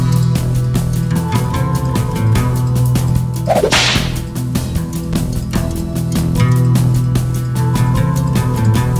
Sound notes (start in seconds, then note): 3.4 whip crack!